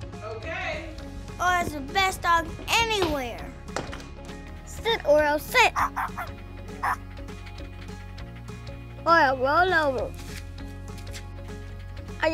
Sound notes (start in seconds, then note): 5.6 happy barking sound